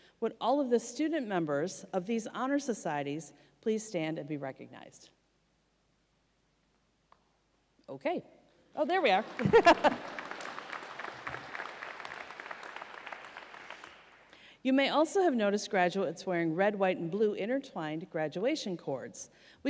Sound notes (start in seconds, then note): 9.0 audience applauds